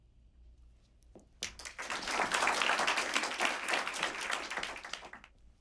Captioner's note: applause